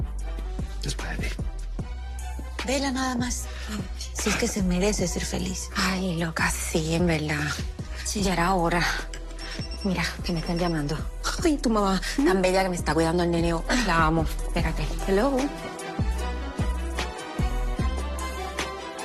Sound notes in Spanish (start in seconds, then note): 9.4 Suena el celular